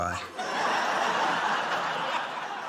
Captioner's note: laughter